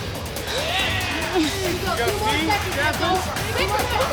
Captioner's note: crowd cheering